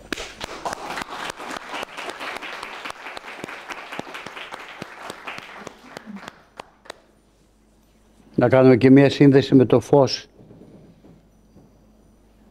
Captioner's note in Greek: χειροκρότημα